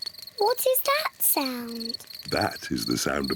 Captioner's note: crickets chirping